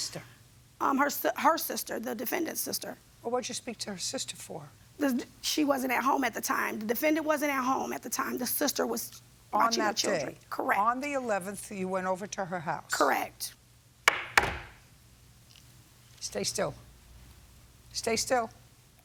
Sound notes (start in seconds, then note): 14.1 gavel bangs